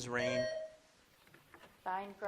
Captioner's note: buzzer dings